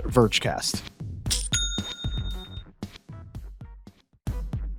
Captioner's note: bell dings